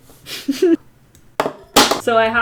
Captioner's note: chuckles